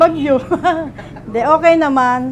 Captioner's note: chuckles